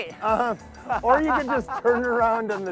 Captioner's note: laughs